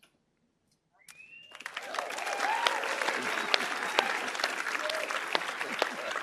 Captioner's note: audience applauding and cheering